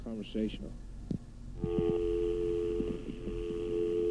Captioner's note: dial tone